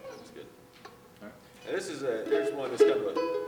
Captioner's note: voice off screen